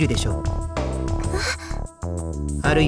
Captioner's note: gasp